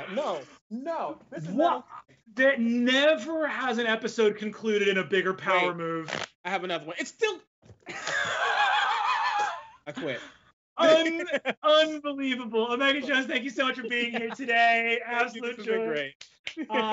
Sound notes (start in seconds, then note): 7.9 laughs